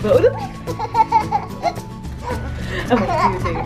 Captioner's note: giggles